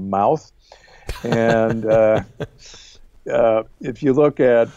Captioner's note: chuckling